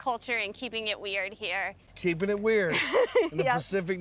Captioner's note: laughing